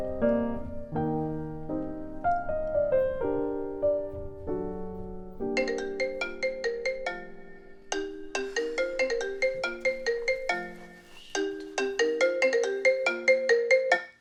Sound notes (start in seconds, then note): 5.6 phone ringing; 8.5 sighs